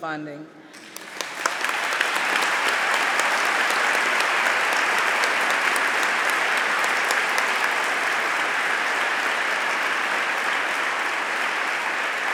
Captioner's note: applause